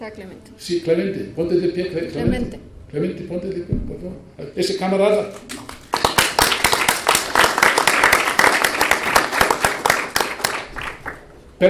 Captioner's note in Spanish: aplausos